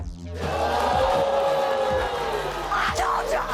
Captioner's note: audience booing